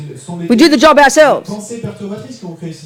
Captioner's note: speaking in French